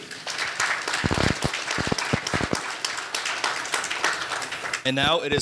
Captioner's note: audience applauding